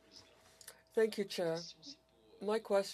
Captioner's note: speaking French